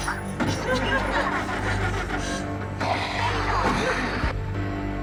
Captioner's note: heavy breathing